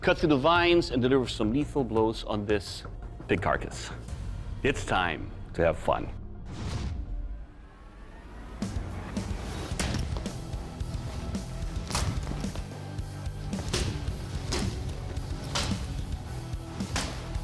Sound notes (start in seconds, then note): 11.3 chopping sound